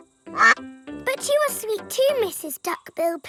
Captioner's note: quacks